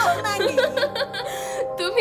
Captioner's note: laugh